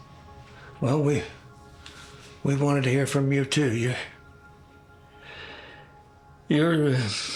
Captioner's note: stutters